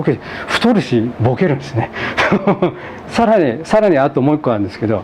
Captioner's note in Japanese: 笑い